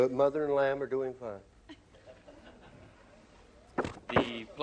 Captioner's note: laughter